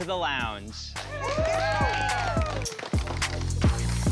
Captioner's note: cheering